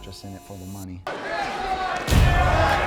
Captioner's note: audience chattering; dramatic thudding